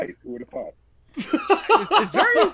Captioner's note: laughs